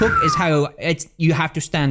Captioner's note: whistles